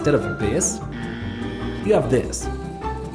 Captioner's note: buzzer